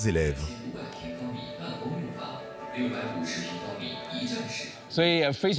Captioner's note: man speaking foreign language; speaking foreign language